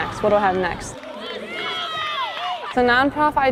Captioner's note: cheering